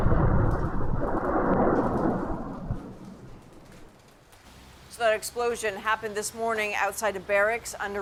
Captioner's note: explosion